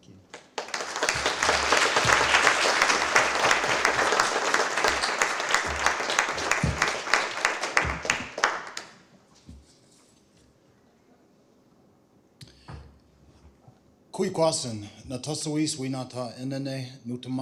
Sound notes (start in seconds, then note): 0.2 applause; 14.8 non-english speech